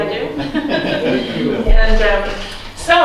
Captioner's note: chuckles